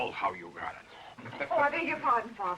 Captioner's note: laughs